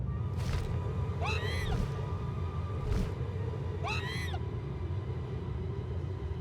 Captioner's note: squawking